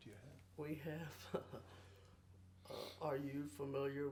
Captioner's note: chuckles